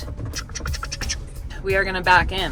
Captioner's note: imitates chugging noises